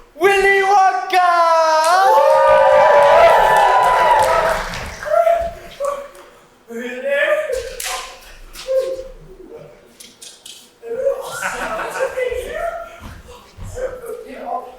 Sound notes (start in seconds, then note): 1.8 audience cheers